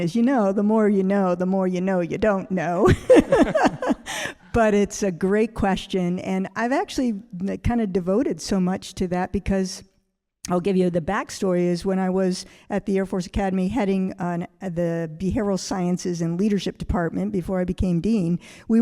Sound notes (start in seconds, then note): 2.9 all laughing